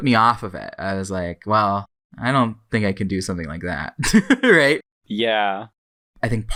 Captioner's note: laughs